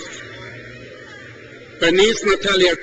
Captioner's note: crowd cheers